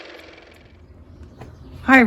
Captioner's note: car motor